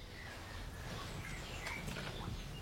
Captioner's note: birds chirping